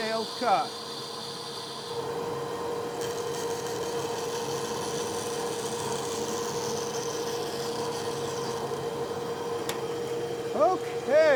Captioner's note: bandsaw buzzing